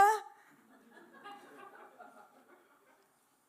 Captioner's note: laughter